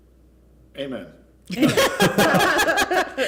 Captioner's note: laughter